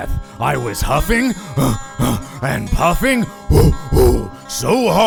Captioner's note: huffing; puffing